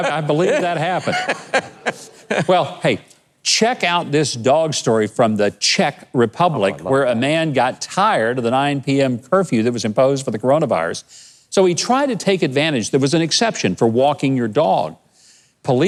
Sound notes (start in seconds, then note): 0.0 laughs